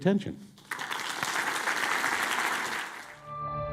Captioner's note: audience clapping; soft melodic music